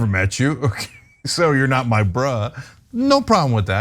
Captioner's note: laugh